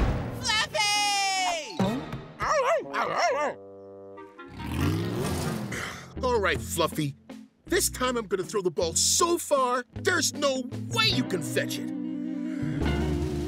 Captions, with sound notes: Fluffy! [barking] All right Fluffy. This time I'm going to throw the ball so far, there's no way you can fetch it!